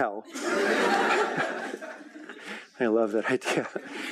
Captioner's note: laughing